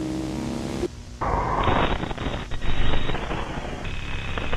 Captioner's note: static hissing